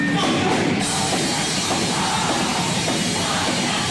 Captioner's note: people shouting